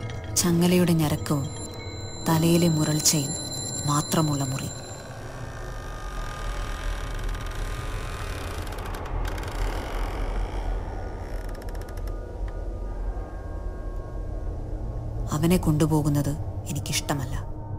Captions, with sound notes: ...where the groaning of his chains... ...and growling of his head... ...are the only sounds he could hear (box creaks open) I hate it when they take him away...